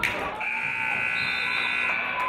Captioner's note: buzzer; referee's whistle